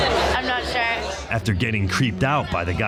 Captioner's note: sorority group laughing